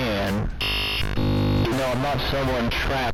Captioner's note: glitching noise